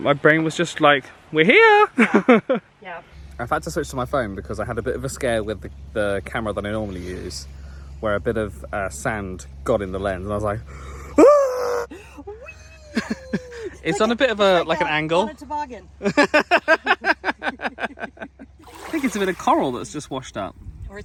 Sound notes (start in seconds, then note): 1.9 laughs; 11.5 screams dramatically; 16.0 laughing